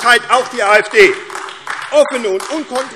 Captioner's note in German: Beifall AfD